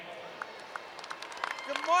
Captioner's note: cheers and applause